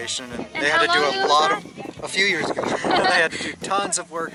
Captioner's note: laughter